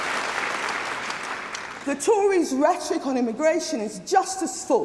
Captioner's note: applause